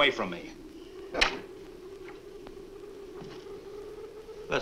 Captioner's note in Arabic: يغلق الباب